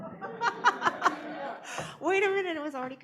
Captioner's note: laughter